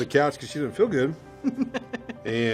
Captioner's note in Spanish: Risas